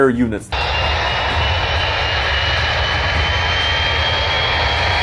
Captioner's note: engines whir